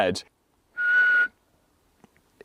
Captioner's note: whistles